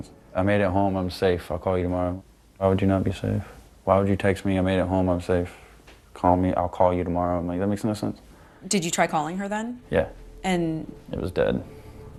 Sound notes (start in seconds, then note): none